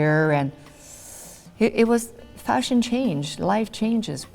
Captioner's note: sharp inhale